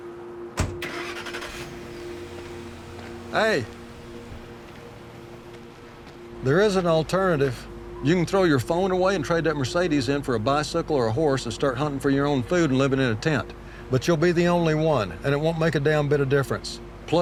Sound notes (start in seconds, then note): 0.5 engine rumbles; 0.6 door thumps